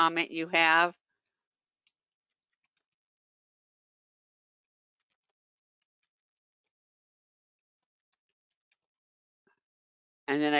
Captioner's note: 8 seconds pause